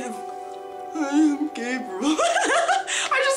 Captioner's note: mocking